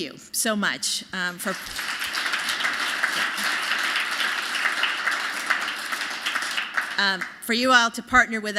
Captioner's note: applause